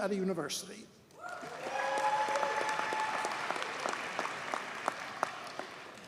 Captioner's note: audience cheers and applauds